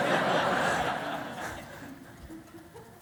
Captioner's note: laughter